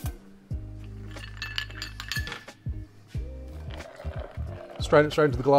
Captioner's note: ice clinking